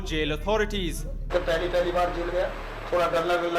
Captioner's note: speaking hindi